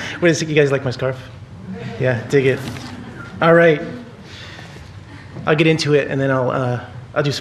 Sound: laughter

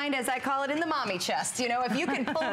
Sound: laughter

